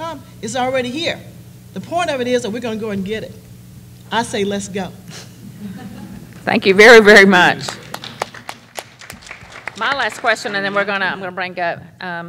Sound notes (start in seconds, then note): 5.2 laughter; 7.6 applause